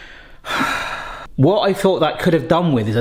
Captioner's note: sighing